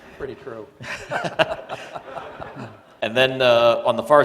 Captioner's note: laughter